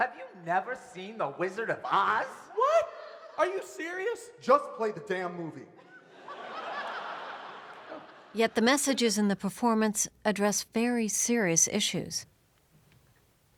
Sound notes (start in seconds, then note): 5.8 big laughter